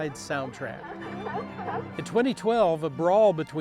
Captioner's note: seals barking